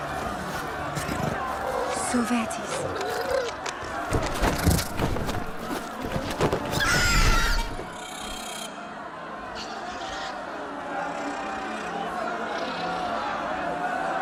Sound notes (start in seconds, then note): 2.1 In Valyrian